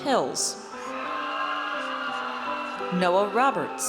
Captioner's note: audience cheers